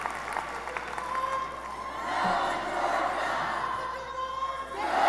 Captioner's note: students chanting